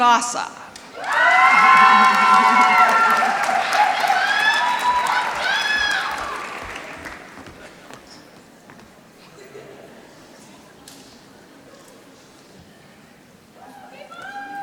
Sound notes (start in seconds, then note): 0.8 applause